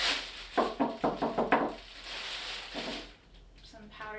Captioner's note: crinkling; knocking